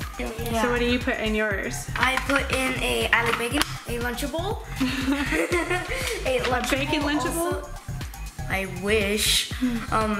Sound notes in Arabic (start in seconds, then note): 4.7 يضحك